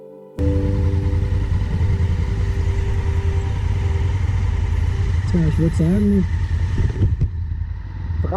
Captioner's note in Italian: rumore di motore